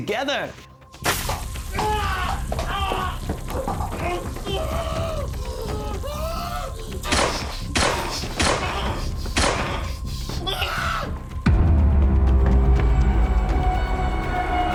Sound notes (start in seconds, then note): 1.0 liquid splashing; 1.6 Eric groaning; 7.7 gun banging; 10.4 Eric screams; 11.8 ominous music